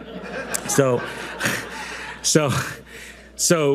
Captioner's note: audience loudly laughing